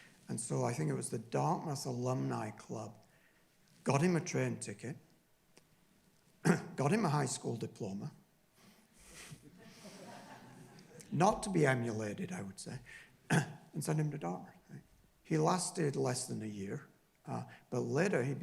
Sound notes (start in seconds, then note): 9.4 laughing